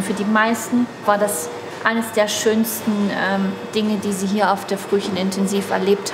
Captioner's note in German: none